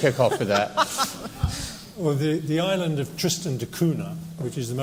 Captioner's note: laughter